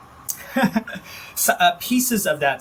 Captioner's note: laughing